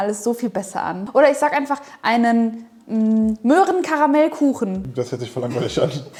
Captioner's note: in German